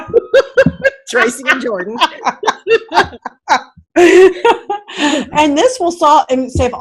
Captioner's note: laughing